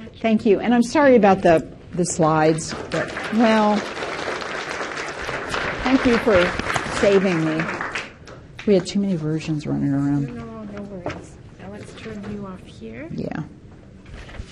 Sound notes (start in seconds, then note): 2.2 participants clapping; 8.7 whispering